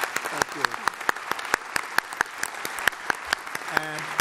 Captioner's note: applause